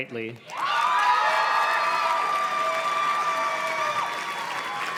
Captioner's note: audience cheers and claps